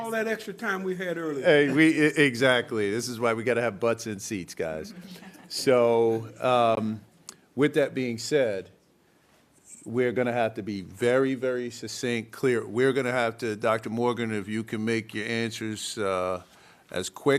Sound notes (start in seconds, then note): 4.9 laughter